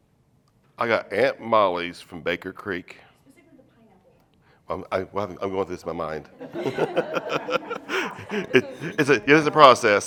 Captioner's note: laughter